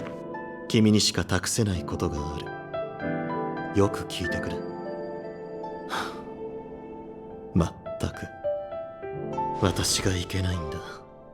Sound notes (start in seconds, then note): 5.8 sigh